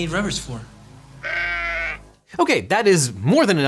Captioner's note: sheep bleats